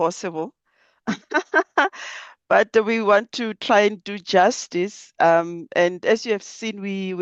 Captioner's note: laughs